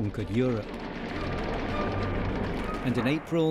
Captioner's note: engine humming